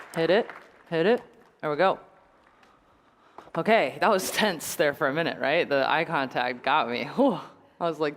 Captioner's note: applause